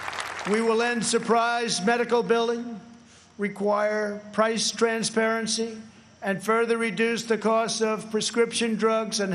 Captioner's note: applause